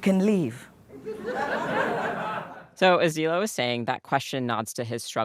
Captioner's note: laughter